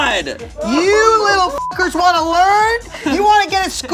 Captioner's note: beep